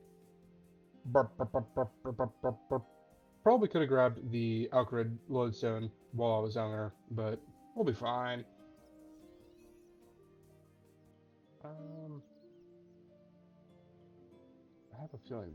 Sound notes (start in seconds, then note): 3.4 funny mouth noises